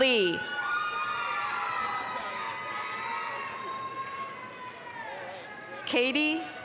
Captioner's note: applause, cheering